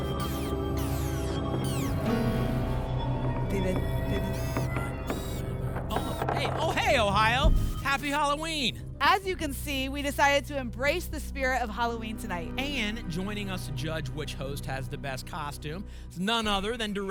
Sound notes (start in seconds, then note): 0.0 robot movement sounds; 4.7 makes mummy noises